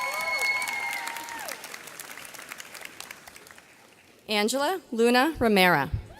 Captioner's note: audience cheers